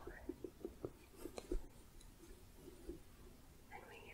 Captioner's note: gentle tapping